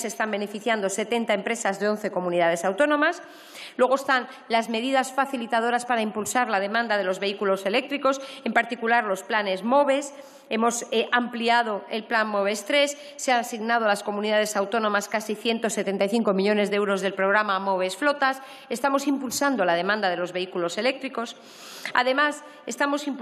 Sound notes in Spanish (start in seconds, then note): none